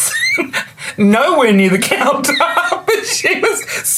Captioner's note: laughs